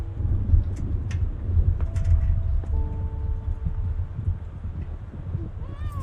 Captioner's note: thunder booms, eerie music